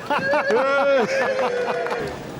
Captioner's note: cheering